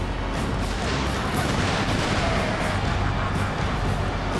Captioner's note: fireworks explode